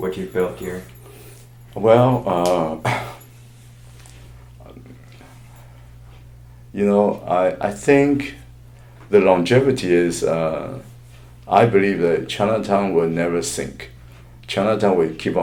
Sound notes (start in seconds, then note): 2.8 cough